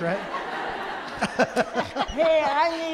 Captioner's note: audience laughs